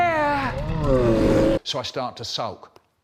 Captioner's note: roar